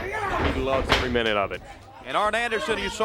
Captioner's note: crowd chatter